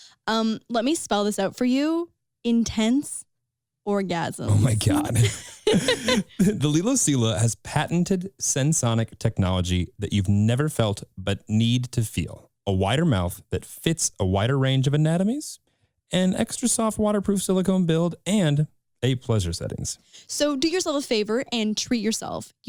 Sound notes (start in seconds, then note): 4.5 laughing